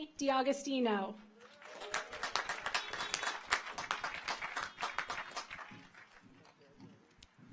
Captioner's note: audience applauds; car horns honking